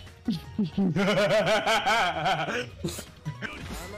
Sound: laughter

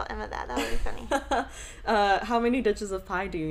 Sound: chuckles

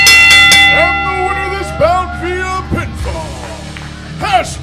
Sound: bell ringing

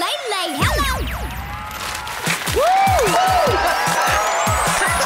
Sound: cheering

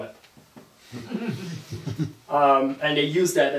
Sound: audience laughing

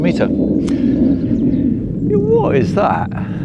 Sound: sound rumbling

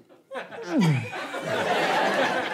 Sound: gulps audibly; audience laughter

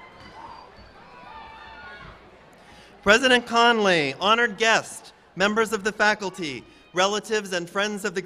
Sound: cheers and applause

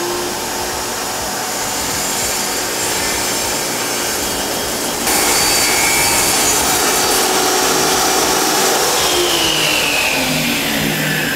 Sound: sawing

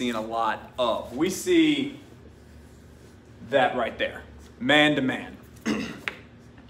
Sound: clears throat

